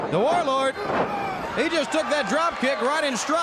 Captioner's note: crowd chatter